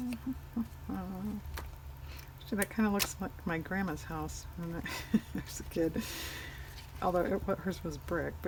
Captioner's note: laughs